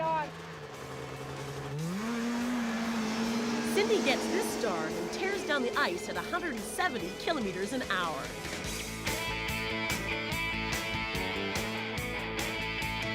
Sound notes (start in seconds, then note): 2.8 engines revving